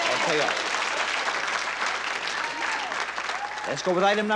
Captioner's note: audience clapping and cheering